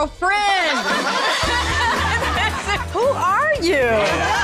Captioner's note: laughter